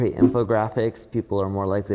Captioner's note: graphics whooshing